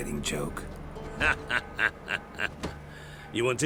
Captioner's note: laughs